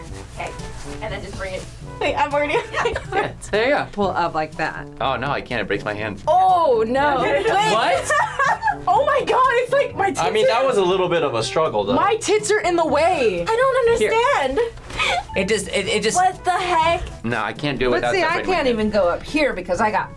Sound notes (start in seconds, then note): 7.8 laughs